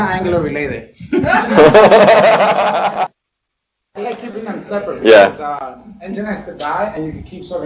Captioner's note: laughter